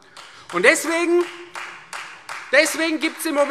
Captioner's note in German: Beifall Freie Demokraten